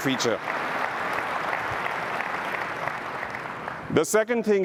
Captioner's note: applause